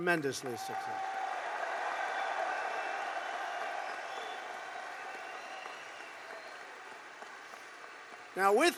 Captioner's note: applause